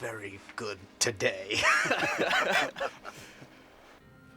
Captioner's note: all Laughing